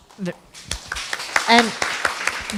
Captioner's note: applause